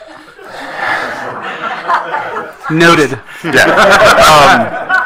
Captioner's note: attendees laughing